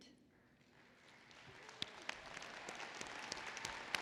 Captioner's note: applause